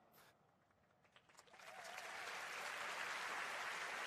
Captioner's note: applause